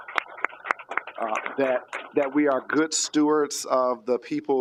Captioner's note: applause